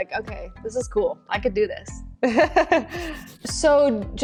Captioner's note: laughing